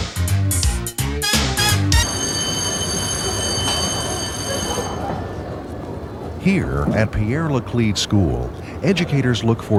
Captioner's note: school bell